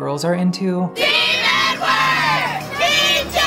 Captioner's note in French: En chœur